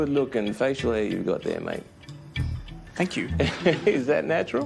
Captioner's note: laughs